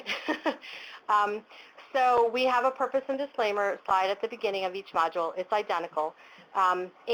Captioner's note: laughter